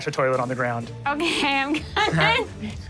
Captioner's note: laughing